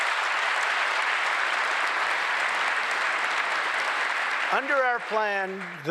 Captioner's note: applause